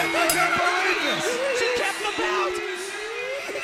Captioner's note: bell ringing